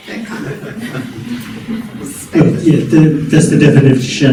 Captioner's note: congregation laughing